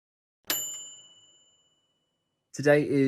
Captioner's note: bell dinging